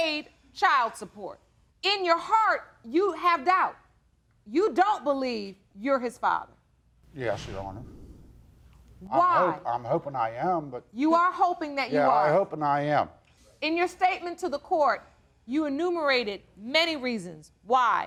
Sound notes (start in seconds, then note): none